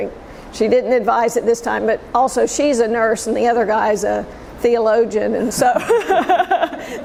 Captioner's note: laughter